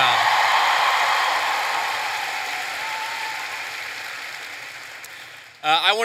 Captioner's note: cheers and applause